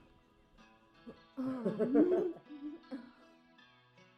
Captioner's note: laughing